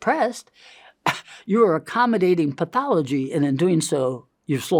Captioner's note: laughs